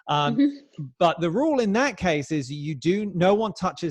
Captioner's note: chuckles